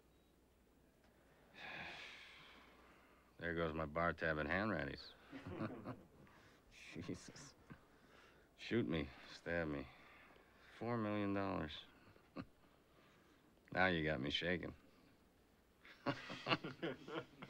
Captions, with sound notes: [ Sighing ] There goes my bar tab at Hanratty's. Jesus. Shoot me, stab me. Four million dollars. [ Chuckles ] Now you got me shakin'. [ Chuckles ] [ Laughter ]